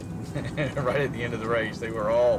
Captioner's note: laughs